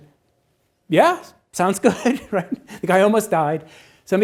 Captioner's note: laughs